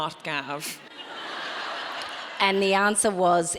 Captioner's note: audience laughing